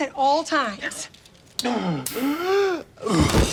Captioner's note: sticking sounds; laughs